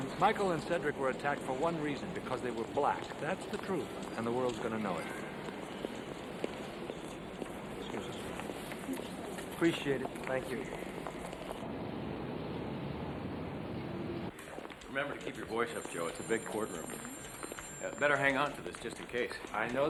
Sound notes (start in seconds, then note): 6.6 feet clacking; 6.6 people chattering; 12.1 vehicles whirring